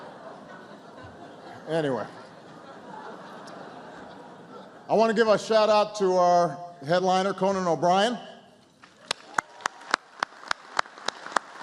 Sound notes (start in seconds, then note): 2.6 laughter; 11.3 applause